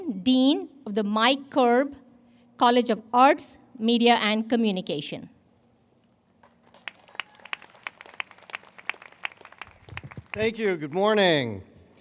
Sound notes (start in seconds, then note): 6.4 applause